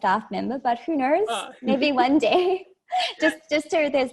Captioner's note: laughs